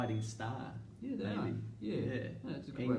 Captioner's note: timer dings